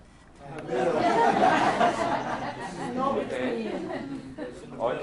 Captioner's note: laughter